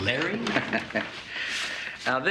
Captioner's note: Nash chuckling